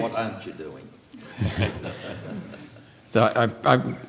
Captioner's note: laughter